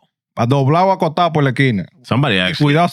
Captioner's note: speaking In Foreign Language